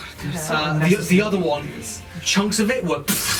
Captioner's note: explosion noises